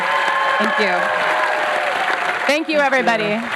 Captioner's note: cheering